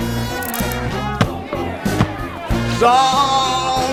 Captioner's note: shoe thuds